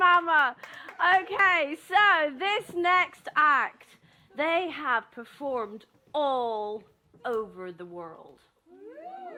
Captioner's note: oooh!